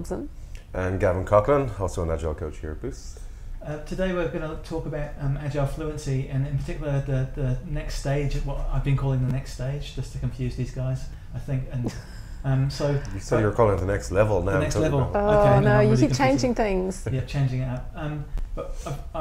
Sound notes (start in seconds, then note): 12.5 laughing